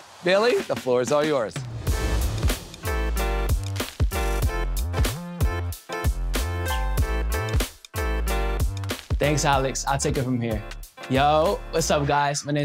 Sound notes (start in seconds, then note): 1.6 graphics whoosh; 1.7 groovy music intensifies